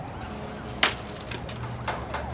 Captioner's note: keys jingling; metal clinking